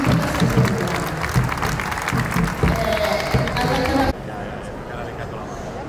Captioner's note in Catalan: Aplaudiment